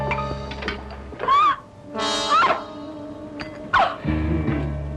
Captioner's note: screams